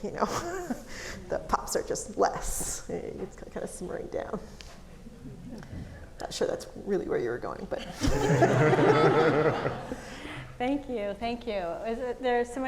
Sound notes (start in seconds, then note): 8.0 audience laughing